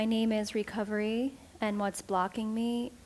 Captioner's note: none